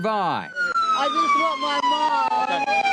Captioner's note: sirens blaring